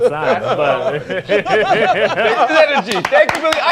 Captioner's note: laughter